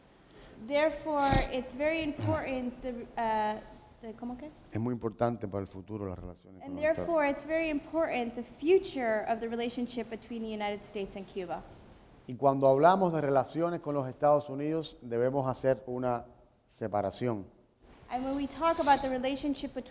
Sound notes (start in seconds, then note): 11.5 speaking in Spanish